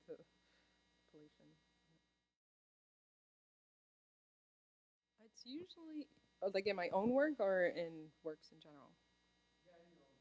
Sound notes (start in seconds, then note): none